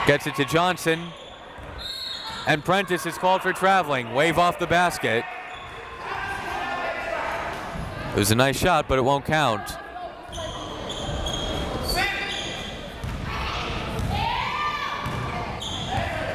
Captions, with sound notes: Gets it to Johnson. (whistle tweeting) And Prentice is called for traveling. Wave off the basket. It was a nice shot, but it won't count. (crowd members shouting)